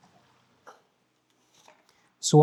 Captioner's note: silence